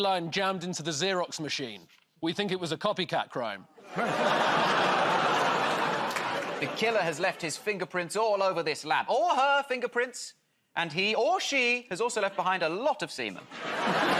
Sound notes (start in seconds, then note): 3.8 audience groans